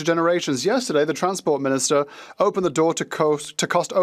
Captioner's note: speaking French